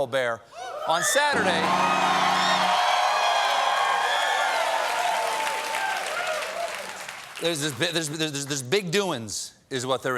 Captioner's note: cheers and applause; piano riff